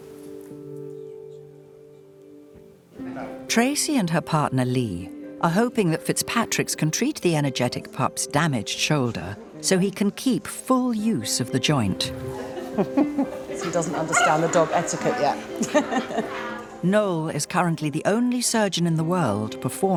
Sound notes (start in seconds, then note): 0.1 gentle music; 12.4 both laughing; 15.4 all laughing